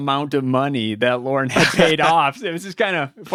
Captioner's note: laughs